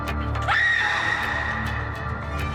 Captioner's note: Marlee screams; ominous and tense electronic music